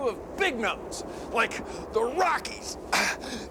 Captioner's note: grunting